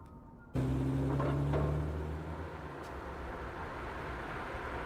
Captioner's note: engine rumbling